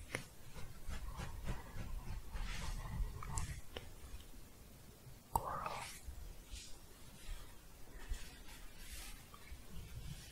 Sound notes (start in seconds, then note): 0.4 louder scratching; 6.4 shuffling